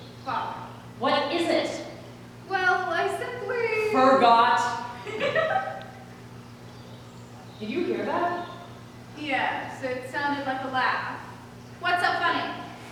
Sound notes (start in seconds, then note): 5.0 EOS laughs